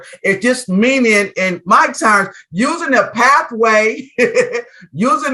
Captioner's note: chuckles